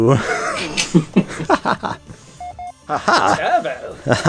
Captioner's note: off-screen laughter